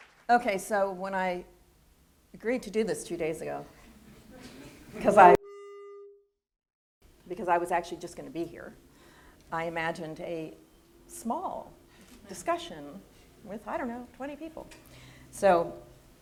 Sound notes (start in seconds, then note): 5.0 audio feedback noise